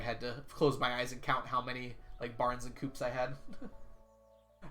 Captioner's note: chuckles